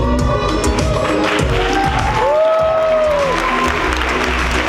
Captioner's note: audience applause